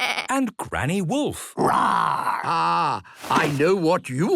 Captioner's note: bleating; roaring